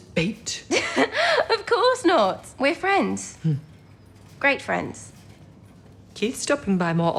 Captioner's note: they laugh